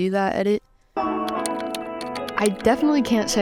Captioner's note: keyboard clacks